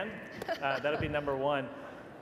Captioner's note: laughter